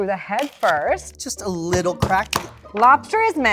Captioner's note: hammer thumping